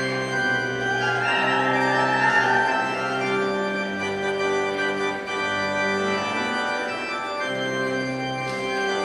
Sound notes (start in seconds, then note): 0.4 audience cheers; 3.7 stately organ music continues